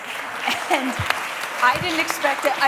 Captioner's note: applause